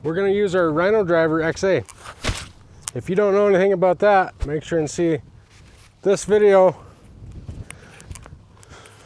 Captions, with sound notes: We're gonna use our Rhino Driver XA. (splash sound) If you don't know anything about that make sure and see this video.